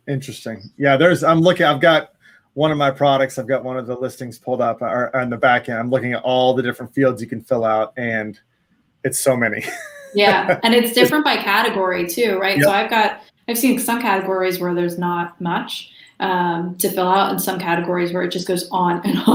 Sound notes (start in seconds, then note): 9.5 laughs; 19.1 laughs